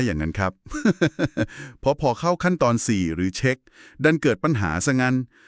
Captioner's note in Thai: เสียงหัวเราะ